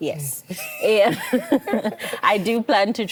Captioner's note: laughs